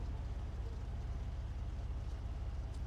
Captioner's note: none